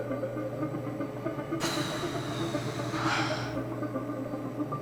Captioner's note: sighs